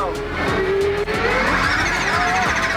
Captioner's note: car whirring